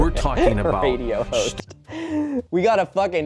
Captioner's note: laughing